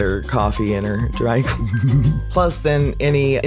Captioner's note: laugh